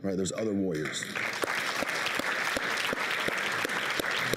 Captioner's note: applauding